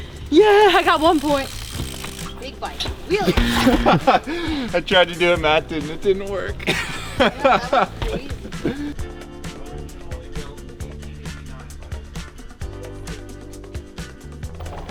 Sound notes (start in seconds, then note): 2.0 wheels whizzing; 3.2 laughing; 3.4 bicycle crashing; 6.6 laughing; 8.6 lively music